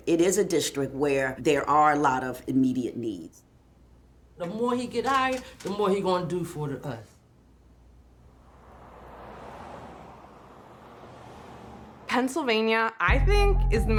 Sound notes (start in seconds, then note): 7.8 cars whooshing